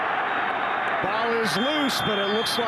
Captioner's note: referee blows whistle